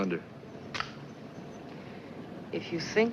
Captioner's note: lighter clicking